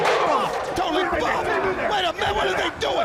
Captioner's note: crowd chatter